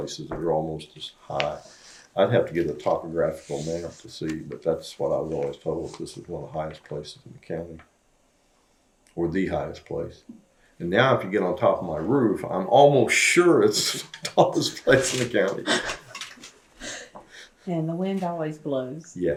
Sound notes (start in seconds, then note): 15.6 laughter